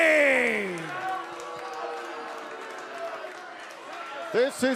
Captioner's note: cheers and boos